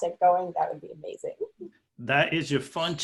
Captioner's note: laughing